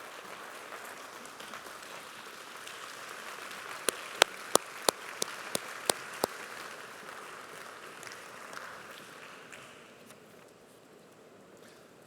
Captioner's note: applause